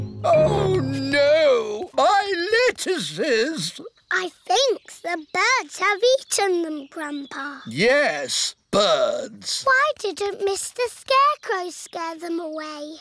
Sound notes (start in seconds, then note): none